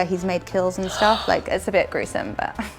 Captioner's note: gasp